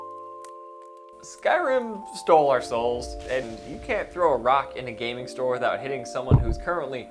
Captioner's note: soul gem filled soound